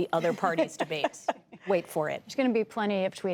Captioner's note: laughter